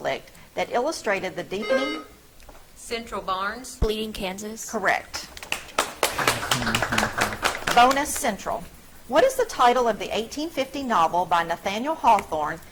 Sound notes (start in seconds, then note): 1.6 buzzer trills; 5.3 audience clapping